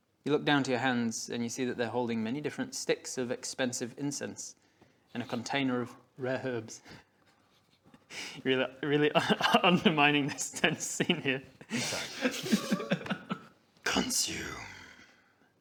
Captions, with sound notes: You look down to your hands and you see that they're holding many different sticks of expensive incense and a container of rare herbs You're really, you're really undermining this tense scene here! *unrepentant laughs* ~CONSUME~